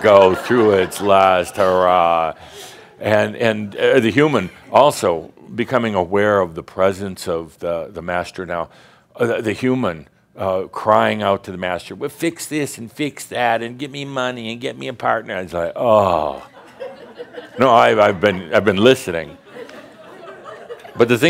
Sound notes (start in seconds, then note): 10.9 in a whiny voice again; 19.2 more chuckles